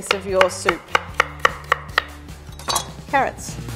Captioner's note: knife tapping against wooden board